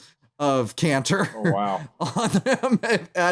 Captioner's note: laughing; laughs